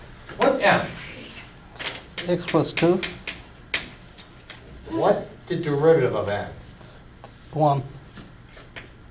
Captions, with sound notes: Alright, what's M. - [Voiceover] X plus two? - What's the derivative of N? - [Voiceover] One.